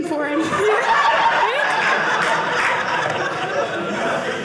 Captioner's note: audience laughing